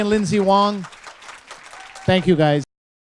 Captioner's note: applause